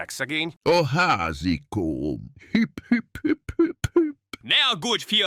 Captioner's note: sob, sob, sob, sob, sob!